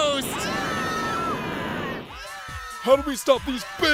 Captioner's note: screaming